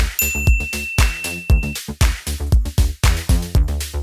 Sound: bell chiming

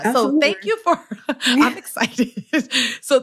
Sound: laughs

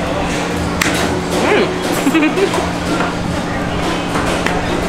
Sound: laughs

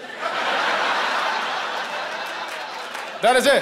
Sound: laughter

